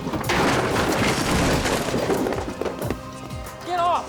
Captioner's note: clattering